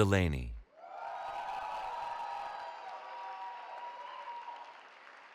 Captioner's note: cheering